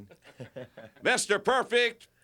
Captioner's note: Curt laughs